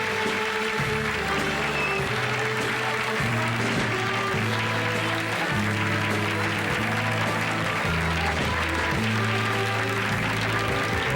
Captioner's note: applause